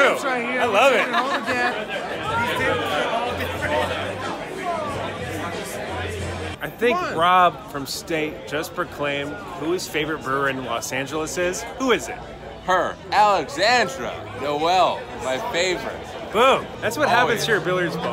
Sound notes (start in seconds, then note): 1.4 laughing; 2.6 crowd chattering